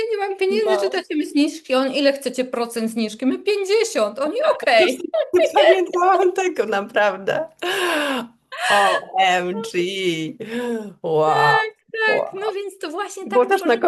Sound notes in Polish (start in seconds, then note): 7.6 wciągnięcie powietrza; 8.3 śmiech